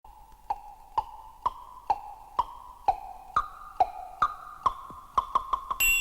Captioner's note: ticking sound